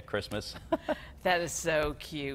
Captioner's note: laughs